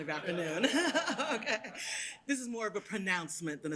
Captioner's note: laughter